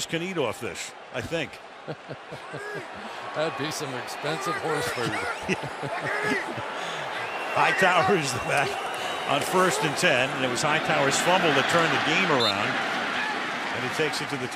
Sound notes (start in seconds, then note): 4.4 laughs; 4.9 laughter